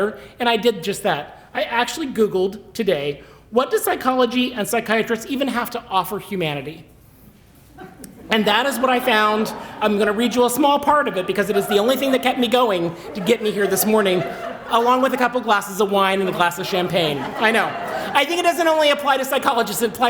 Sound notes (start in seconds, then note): 7.4 laughter; 17.0 laughter